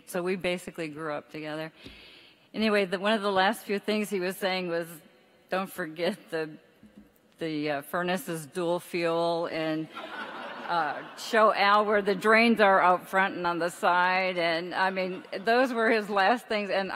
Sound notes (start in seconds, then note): 9.9 audience laughs